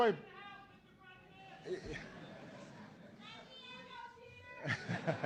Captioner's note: laughter